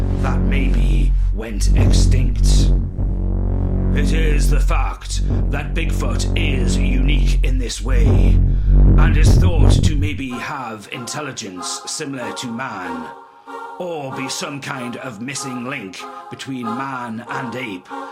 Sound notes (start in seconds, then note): 2.7 haunting noise is heard